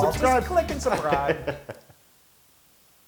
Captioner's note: laugh